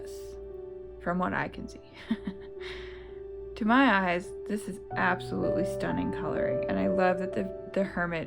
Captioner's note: laugh